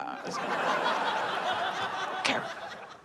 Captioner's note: audience laughs